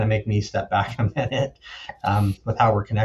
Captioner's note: chuckles